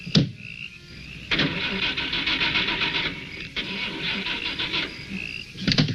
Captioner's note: crickets chirping; car engine faltering